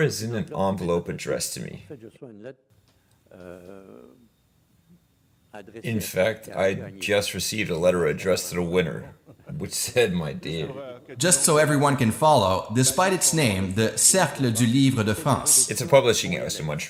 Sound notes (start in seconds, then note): 8.8 laughs